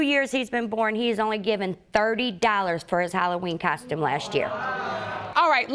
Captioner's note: audience exclaims